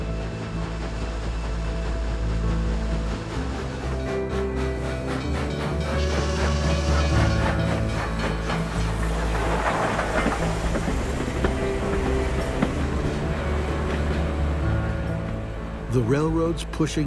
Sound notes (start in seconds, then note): 4.5 train chugging, bell ringing, whistle blowing